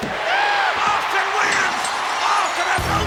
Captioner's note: bell dinging